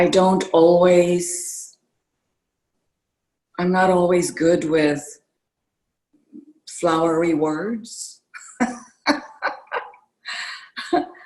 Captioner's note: laughter